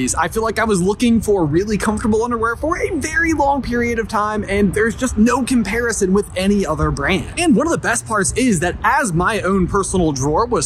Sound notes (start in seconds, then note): none